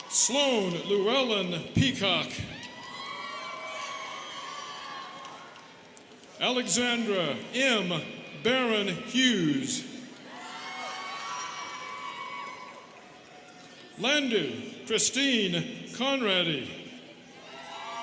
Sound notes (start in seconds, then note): 2.4 students cheering; 10.0 students cheering; 17.2 students cheering